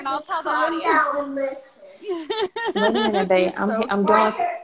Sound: laughs

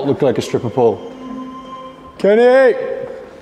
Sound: distant voice

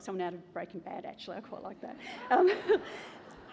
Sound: laughter

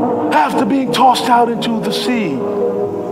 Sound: sobs

